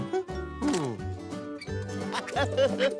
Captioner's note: laughs